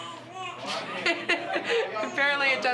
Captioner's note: laughing